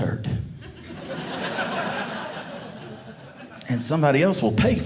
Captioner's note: audience laughing